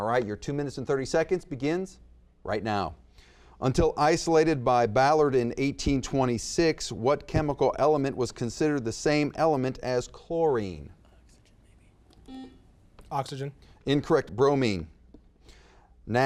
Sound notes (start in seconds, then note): 12.2 buzzer beeps